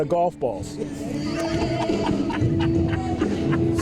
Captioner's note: laughing in the background